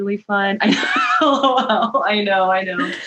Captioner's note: laughs